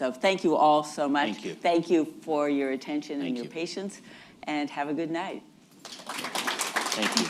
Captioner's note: applause